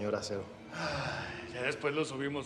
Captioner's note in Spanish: exhala